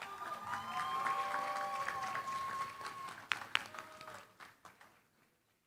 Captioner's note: cheering, applause